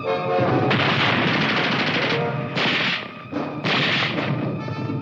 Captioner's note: grenade exploding